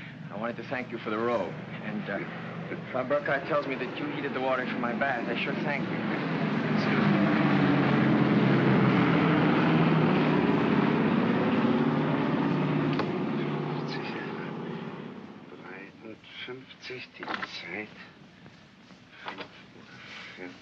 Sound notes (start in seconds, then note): 6.5 aircraft roars overhead; 15.3 Shtiva mumbles in German